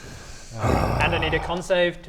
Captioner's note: sigh